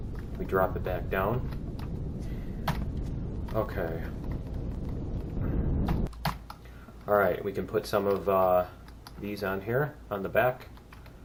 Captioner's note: keystroke